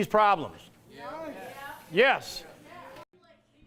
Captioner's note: sounds of agreement from crowd